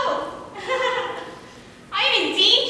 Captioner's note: nervously laughs